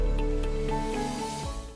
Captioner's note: whooshing